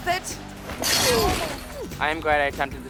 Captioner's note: fence rattles